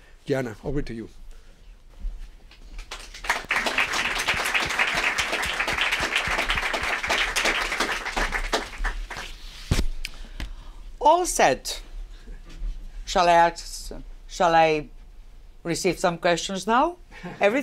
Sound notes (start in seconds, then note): 2.5 applause